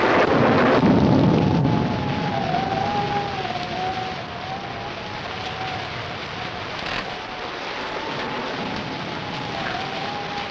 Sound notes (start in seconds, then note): 4.6 rain pattering; 4.6 wind howling